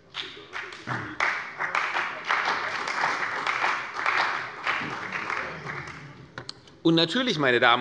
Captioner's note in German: Beifall bei der CDU und dem BÜNDNIS 90/DIE GRÜNEN